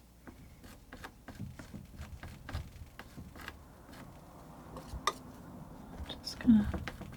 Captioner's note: tapping